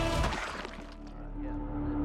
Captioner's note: body drops